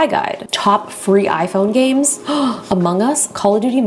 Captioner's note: gasps